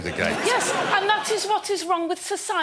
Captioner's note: laughter